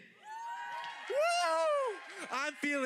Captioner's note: audience applauding